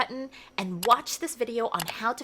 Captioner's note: mouse clicking